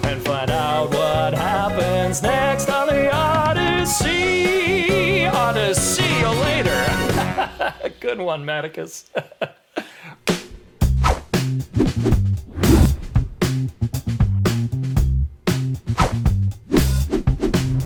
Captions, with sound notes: and find out what happens next on The Oddyssey. Oddysee you later. (LAUGHING) Good one, Mattikos. [FUNKY MUSIC]